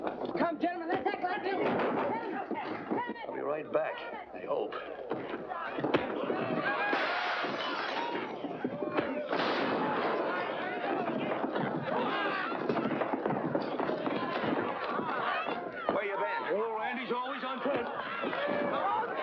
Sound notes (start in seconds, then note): 1.6 crash; 4.7 bartender yelling; 6.8 mirror smashes; 8.9 crash; 10.7 thump; 11.8 yelling & commotion